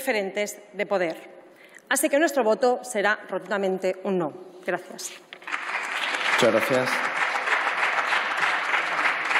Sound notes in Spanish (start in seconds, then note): 5.4 Aplausos